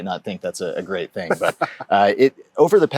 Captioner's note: laughs